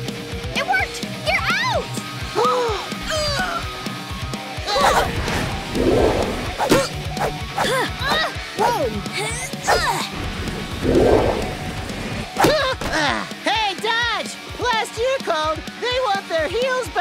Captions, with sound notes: It worked, you're out! [gasping] [grunting] [grunting] Whoa! [grunting] [grunting] Hey, Dodge. Last year called, they want their heels back.